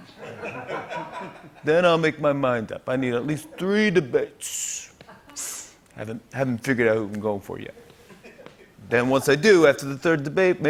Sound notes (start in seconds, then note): 0.1 laughter; 5.1 sniff